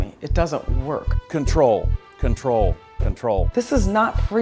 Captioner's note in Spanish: Voz en off masculina